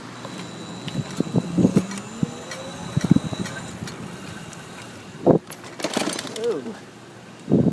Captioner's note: motor whirring